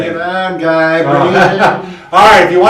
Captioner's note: laughs